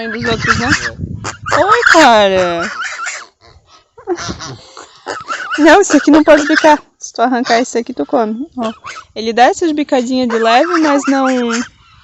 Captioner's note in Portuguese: risadas